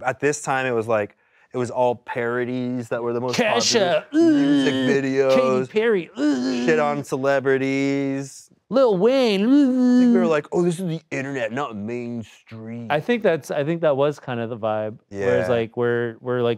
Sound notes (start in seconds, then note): 3.5 groans; 9.7 groans